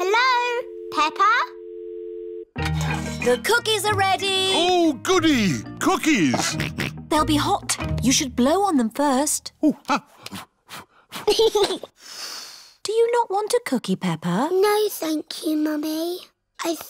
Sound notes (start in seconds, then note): 0.0 dial tone beeping; 10.8 blows; 11.6 giggles and blows